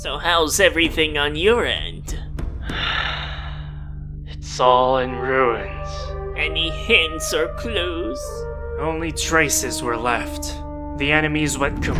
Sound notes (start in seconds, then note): 2.6 deep breath